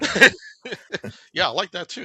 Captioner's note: laughs